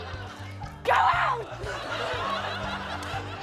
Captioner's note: laughter